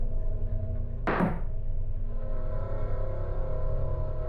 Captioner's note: object tapping